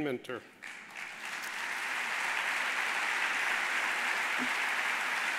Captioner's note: audience applauding